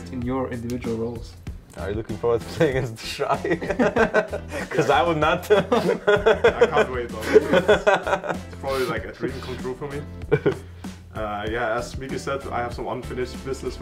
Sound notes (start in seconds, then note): 5.3 laughs; 5.4 laughing